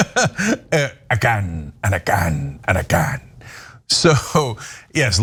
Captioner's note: laugh